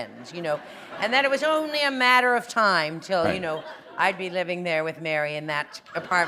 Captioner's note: laughter